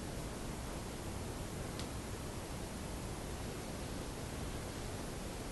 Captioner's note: snap; clothes rustle